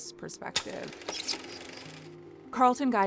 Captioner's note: reel whirring